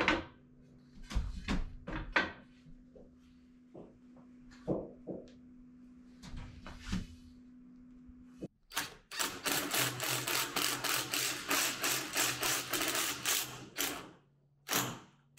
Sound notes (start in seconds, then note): 8.6 drill whirring